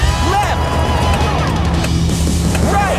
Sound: clicking

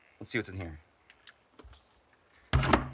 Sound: flashlight clicks; door opens

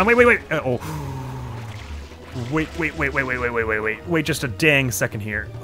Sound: gasps

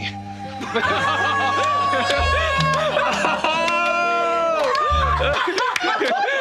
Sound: laughter

